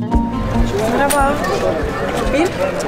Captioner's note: Turkish